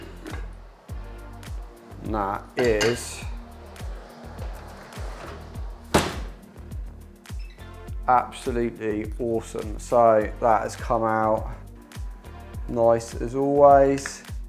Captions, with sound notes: And that is (oven door clicks) absolutely awesome. So that has come out nice, as always.